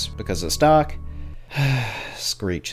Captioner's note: sigh